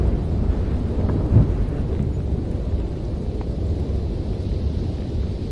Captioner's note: wind blowing